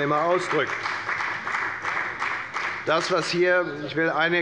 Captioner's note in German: Beifall bei der FDP